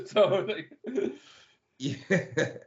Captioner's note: laughing